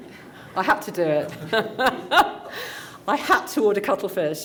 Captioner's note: light laughter; laughs